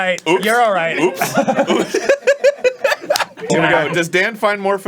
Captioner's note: breaks down laughing